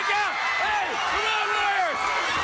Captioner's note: crowd cheering